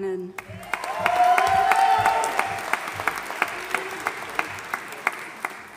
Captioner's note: audience applauding and cheering